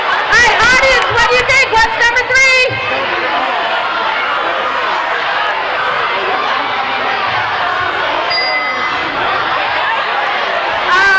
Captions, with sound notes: All right, audience what do you think? What's number three? (crowd shouting) (dinging)